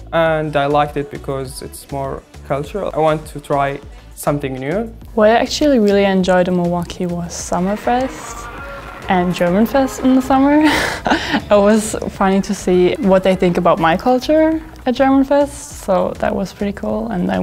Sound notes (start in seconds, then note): 9.5 laughs